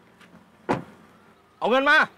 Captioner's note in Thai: เสียงปิดประตู